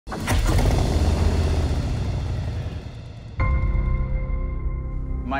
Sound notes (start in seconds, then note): 0.1 rumbling